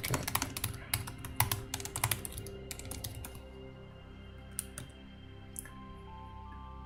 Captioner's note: keyboard typing; calm music